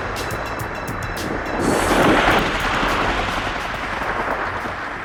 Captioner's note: helicopter whooshing